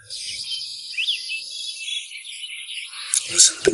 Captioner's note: birds chirping